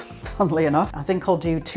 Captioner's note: laughs